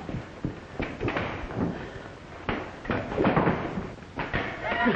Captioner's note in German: Peitsche knallt